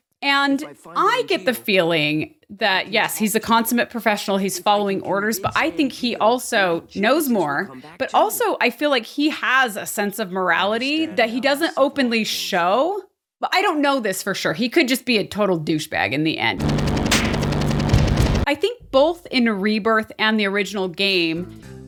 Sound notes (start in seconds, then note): 17.0 slap